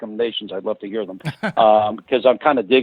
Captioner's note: laughs